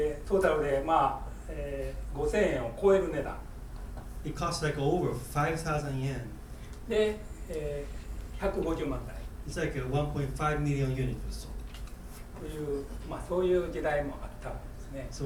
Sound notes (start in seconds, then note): 0.3 speaking in foreign language; 7.0 speaking in foreign language; 12.6 speaking in foreign language